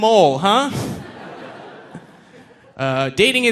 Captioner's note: audience laughing